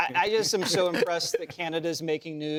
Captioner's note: laughter